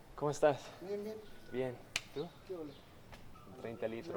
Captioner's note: cool hand shake sounds